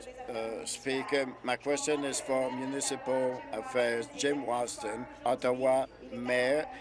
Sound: speaking in French

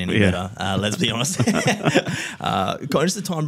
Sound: laughter

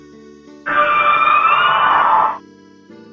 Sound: Frosslass sound

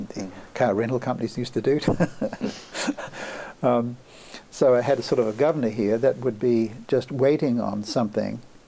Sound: laughs

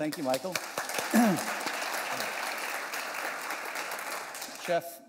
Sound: applause

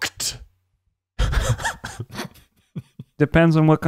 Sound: laughing

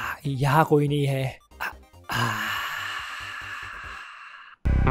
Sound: sigh... Chilling Noises

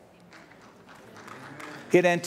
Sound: applause

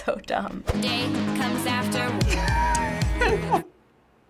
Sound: giggling

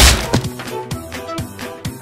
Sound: thud

